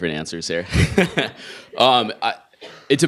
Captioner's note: laughing